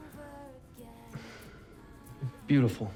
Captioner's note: sighs